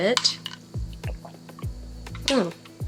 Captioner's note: gulp gulp gulp